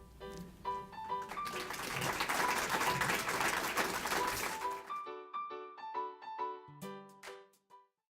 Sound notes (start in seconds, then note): 0.1 jolly piano music; 1.1 audience clapping